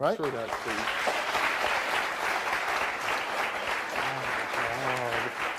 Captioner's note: audience clapping